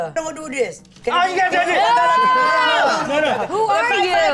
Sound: group shouts and exclaims

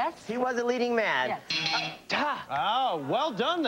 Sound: buzzer

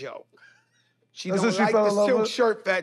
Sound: laughs

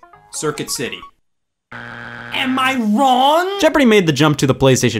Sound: buzzer beeps

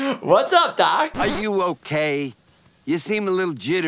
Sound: laughs

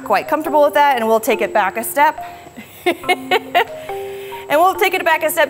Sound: laughs

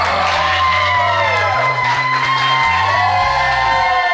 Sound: cheering

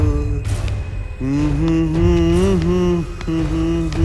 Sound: humming

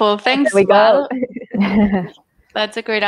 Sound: all ladies chuckling

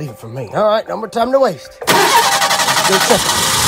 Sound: engine Starts

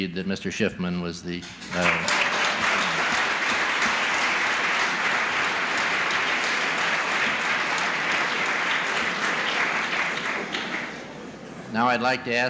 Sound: applause

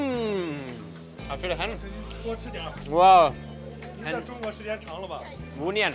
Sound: speaks in Chinese

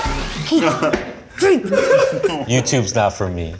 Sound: grunts

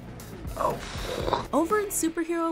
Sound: deep exhaling

